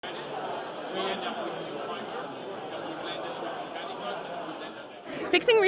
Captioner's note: crowd noise